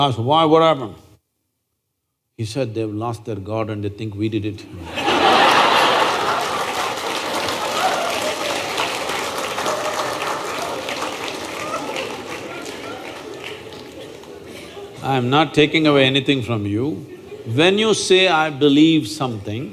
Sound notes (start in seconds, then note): 9.2 laughter/Applause